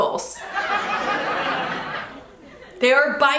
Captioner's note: audience giggles